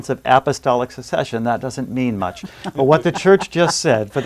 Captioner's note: laughs